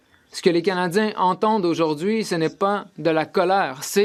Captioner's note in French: voix de l'interprète